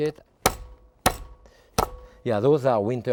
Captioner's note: tool pounds